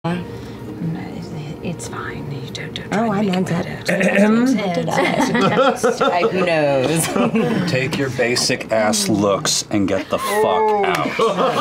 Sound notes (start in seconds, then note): 5.0 laughter